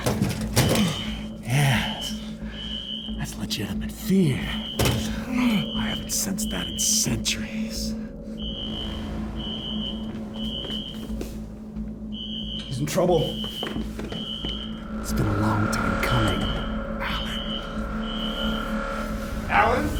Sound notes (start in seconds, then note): 9.0 alarm screeching; 9.0 tense music